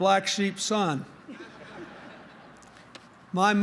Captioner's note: laughter